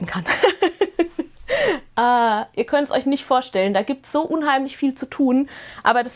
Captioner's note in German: Gelächter